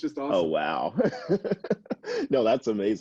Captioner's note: laughs